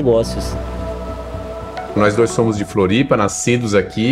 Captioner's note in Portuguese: Ondas quebram